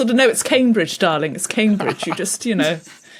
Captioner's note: laughs softly